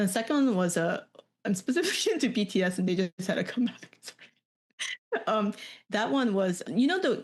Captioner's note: laughs